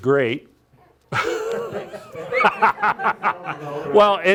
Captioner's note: group laughing